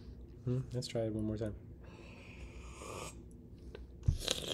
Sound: slurps

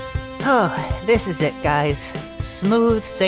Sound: sighs

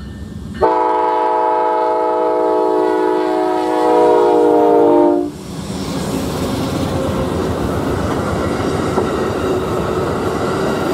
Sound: train

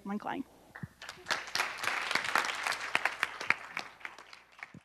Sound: applause

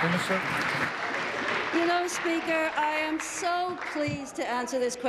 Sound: applause

